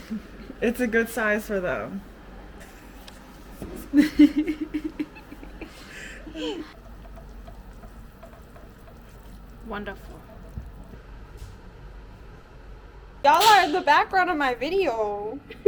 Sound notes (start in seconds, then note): 4.0 nervous laughter